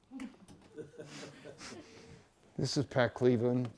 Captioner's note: laughs